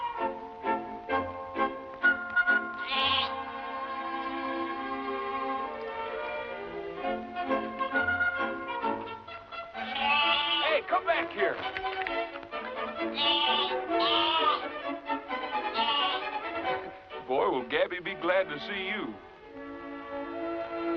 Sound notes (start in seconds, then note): 0.3 whimsical music; 13.0 bleating